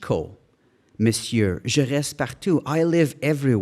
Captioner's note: speaking in foreign language